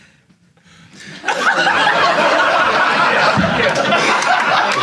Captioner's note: audience laughing